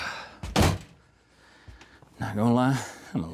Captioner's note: door Slams